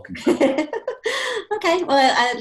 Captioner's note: laugh